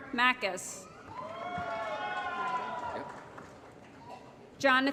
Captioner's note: applause & Cheering